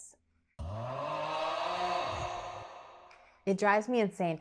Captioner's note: frustrated sound effect